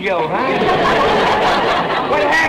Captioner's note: audience laughter